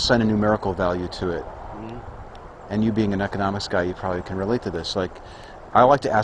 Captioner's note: mmm-hmmm